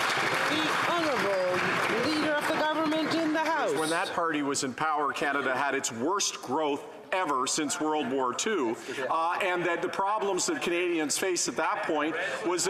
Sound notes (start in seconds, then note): 3.9 some Applause